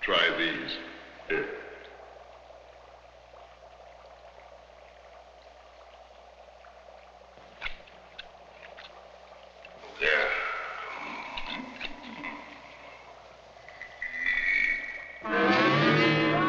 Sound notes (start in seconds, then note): 9.8 grunting; 15.2 dramatic instrumental music